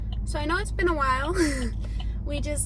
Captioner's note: laughs